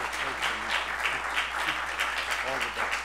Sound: applause drowns out speech

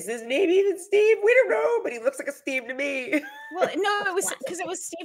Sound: laughs

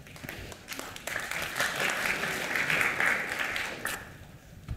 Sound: applause

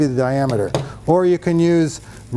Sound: tape measure clunks

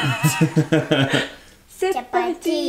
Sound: laughing

